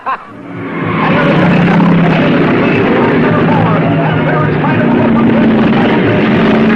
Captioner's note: racer laughing; cars revving; announcer shouting